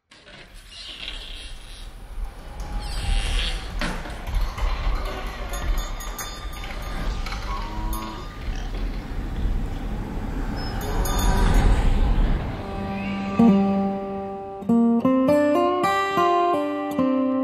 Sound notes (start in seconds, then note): 0.7 sounds of wind and creaking front porch; 7.0 cows and pigs are heard in the background